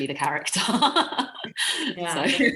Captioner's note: laughing